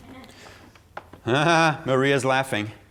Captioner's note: laughing